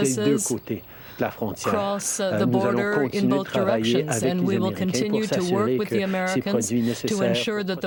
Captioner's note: speaking French